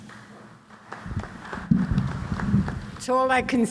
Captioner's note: applause